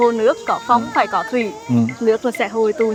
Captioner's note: wind